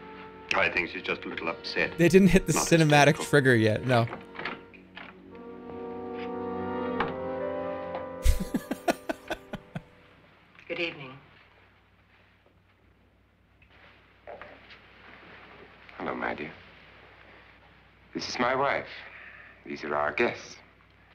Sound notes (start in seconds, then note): 8.2 laughs